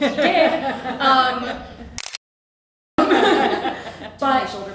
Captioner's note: camera clicking